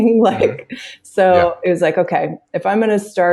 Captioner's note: laughs